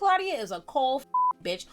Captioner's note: beep